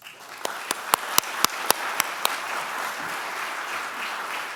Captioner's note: applause